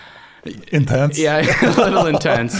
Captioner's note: both laughing